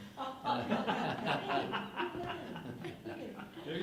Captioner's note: laughing